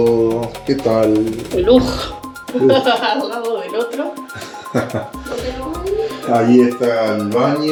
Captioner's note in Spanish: risas